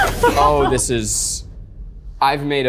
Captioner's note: laughs